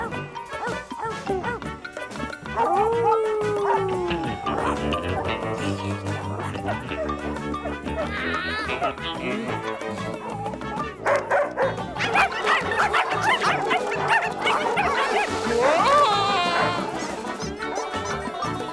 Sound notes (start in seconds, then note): 0.4 dog barking; 2.5 dog howling; 7.5 cat yowls; 9.9 dogs barking; 10.0 dog barking; 16.4 costumes squeaking